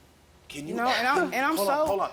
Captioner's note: scoffs